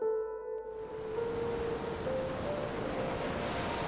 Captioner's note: waves crash